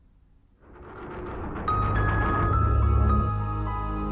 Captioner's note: door grinds open